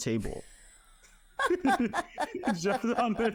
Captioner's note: both laughing